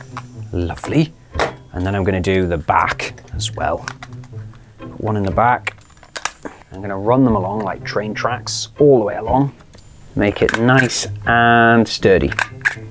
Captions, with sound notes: Lovely. And then I'm going to do the back as well. One in the back. [STAPLER CLICKS] I'm going to run them along like train tracks all the way along. Make it nice and sturdy.